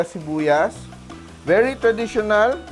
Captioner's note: sizzle